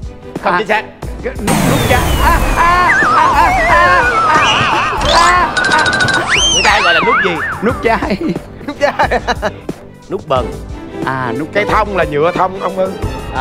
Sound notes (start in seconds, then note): 9.4 laughing